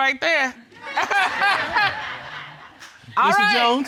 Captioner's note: all laughing